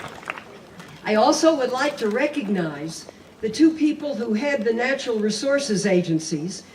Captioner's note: applause